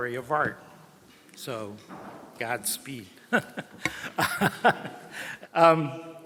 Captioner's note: laughs